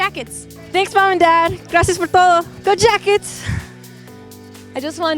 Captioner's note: non-english